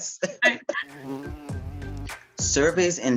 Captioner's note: laughter; bee Buzzing